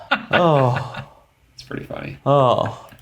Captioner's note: laughs